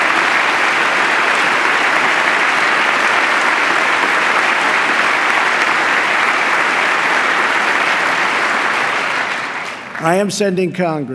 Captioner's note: applause